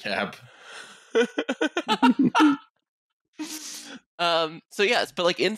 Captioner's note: laughter